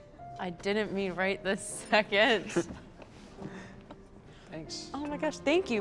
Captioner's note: quiet piano music; chuckling